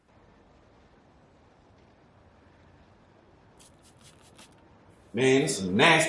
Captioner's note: street noise